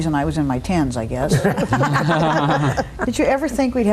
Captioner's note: all laugh